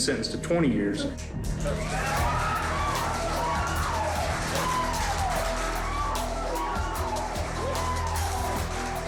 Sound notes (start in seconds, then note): 1.6 clapping, cheering